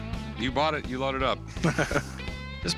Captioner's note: chuckling